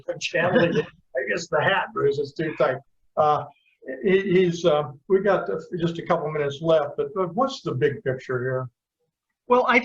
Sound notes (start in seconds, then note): 0.3 laughter